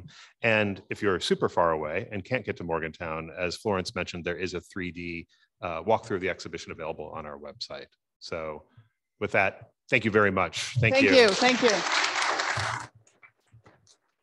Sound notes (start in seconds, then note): 11.0 audience applauding